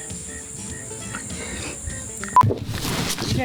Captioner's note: beep